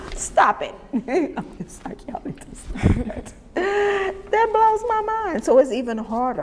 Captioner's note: laughter